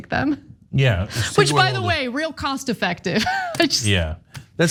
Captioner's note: laugh